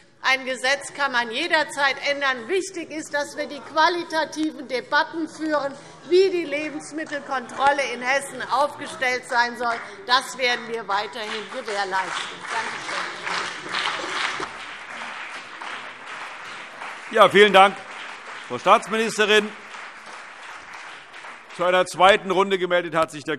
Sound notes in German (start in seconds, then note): 13.5 Beifall CDU und BÜNDNIS 90/DIE GRÜNEN